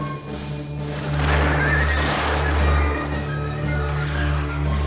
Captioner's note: gunfire